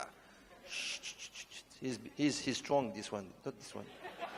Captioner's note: shushing